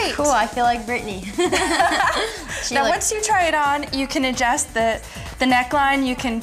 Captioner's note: giggling